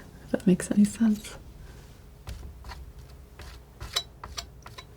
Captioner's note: scratching